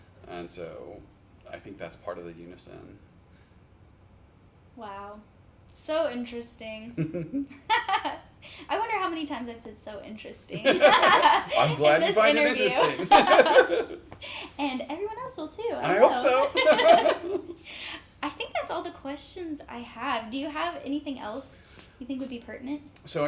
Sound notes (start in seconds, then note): 7.0 chuckle; 10.5 laugh; 15.9 chuckle